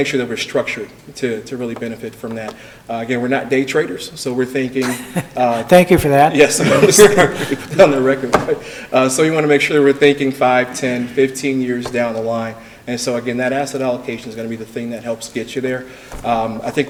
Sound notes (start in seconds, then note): 4.8 laughs